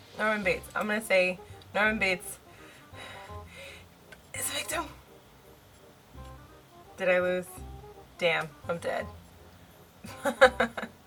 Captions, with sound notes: Norman Bates I'm gonna say Norman Bates (takes a deep breath) is a victim? did I lose? damn I'm dead (laughs)